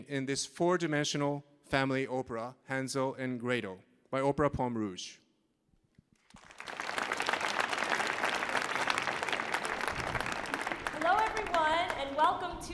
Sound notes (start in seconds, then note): 6.2 audience applauding